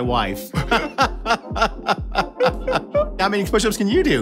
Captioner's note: laughing